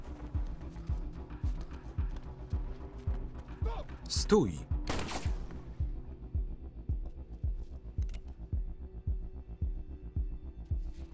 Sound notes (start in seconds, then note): 4.8 gun firing